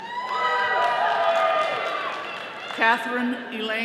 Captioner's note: all cheering